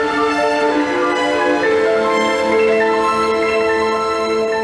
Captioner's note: audience applauding